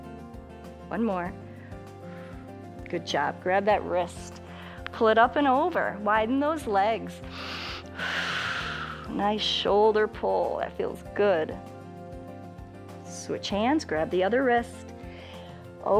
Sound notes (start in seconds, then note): 7.2 inhales and exhales